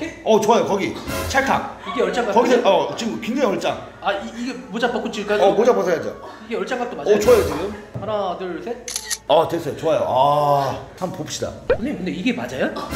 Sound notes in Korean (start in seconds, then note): 8.8 찰칵